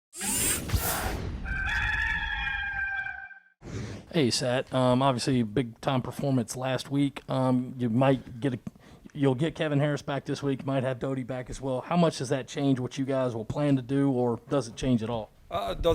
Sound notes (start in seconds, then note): 0.2 whoosh; 1.4 cock crows